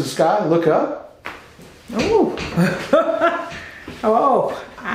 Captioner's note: bones cracking; laughs